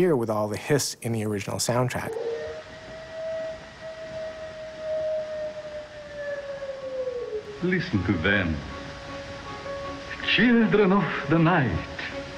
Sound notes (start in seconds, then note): 1.9 wolf howls; 2.3 static hissing